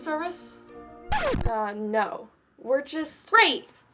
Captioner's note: record scratches